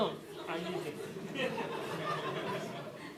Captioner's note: laughter